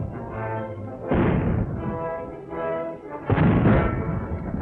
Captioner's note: cannons booming